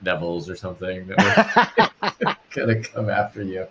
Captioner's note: laughs